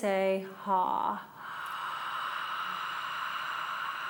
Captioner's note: breathing